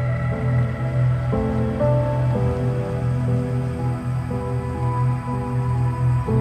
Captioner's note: tense music; cicadas chirping